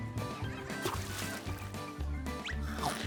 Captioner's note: splash!; sloop! chomp!